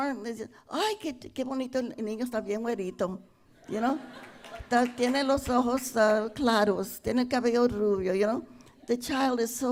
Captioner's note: speaking Spanish